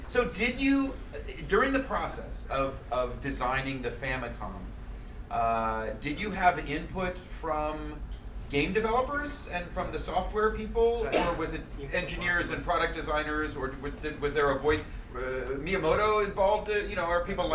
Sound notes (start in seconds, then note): 11.0 coughing; 11.9 speaking in foreign language